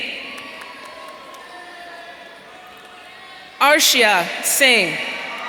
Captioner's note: audience cheering